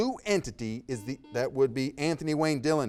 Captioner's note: buzzer beeping